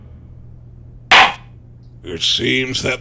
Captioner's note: gavel slams!